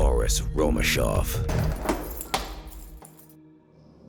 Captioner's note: door clatters open